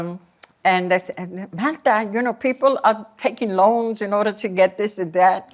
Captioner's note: non-english